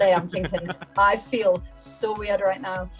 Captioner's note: he laughs